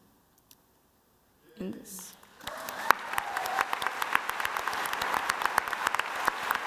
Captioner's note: audience applauding